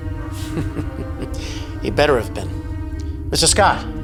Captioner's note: chuckles